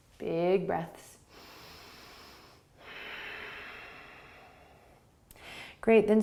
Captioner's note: inhaling and exhaling